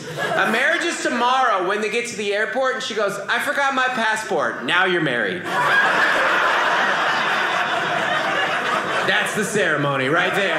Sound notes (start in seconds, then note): 5.4 audience laughing